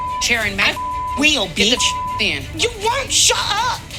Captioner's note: beep